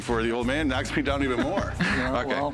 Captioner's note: laughs